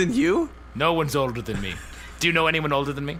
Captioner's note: Pleck laughs